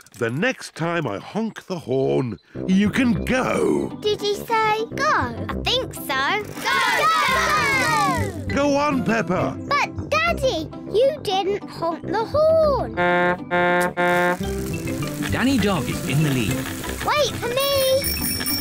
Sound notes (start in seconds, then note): 12.9 honks horn; 17.7 rings bell